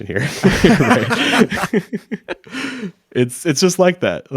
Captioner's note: both laughing